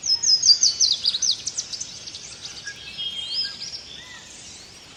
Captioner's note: birds cawing and chirping